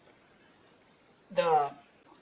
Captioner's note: squeak